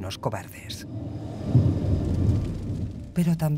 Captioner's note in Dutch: donder gerommel